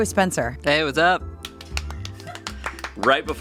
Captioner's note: all clap; producers laugh